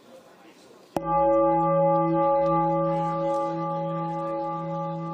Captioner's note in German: Gong